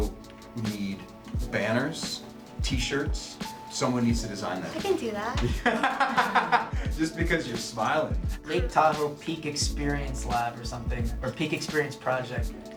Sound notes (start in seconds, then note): 5.4 laughing